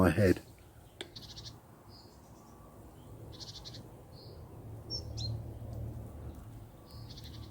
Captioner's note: birds tweeting. Faint buzzing of dragonfly